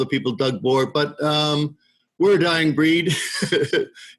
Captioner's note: laughs